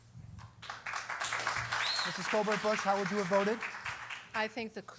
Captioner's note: applause